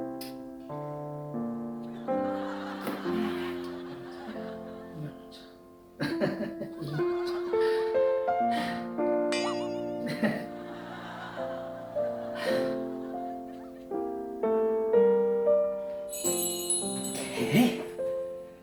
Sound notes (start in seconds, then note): 8.4 breathing